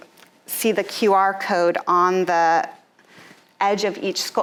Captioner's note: none